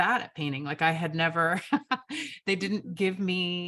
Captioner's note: chuckles